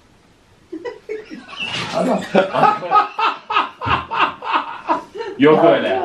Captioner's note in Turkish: gülüşmeler hahahahahaah